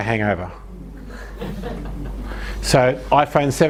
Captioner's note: audience laughs